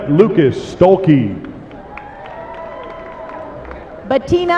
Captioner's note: applause